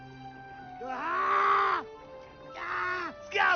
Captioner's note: screams